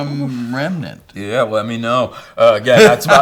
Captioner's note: laughing